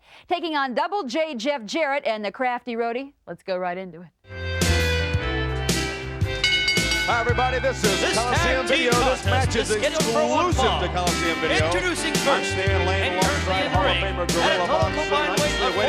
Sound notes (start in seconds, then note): 4.6 upbeat country music; 6.2 bell rings